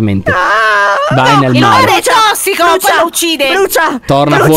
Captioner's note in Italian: piagnucola